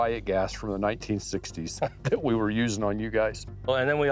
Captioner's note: laughs